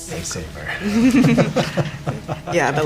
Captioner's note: laughter